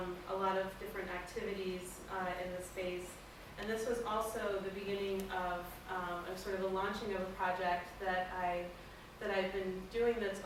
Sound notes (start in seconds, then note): none